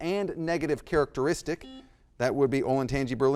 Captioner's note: buzzer blaring